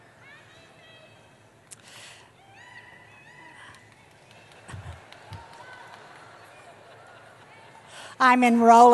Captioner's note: audience member shouting